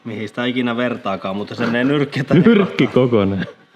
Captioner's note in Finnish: naurahtaa